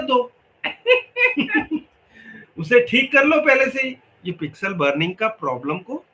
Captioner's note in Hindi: हंसी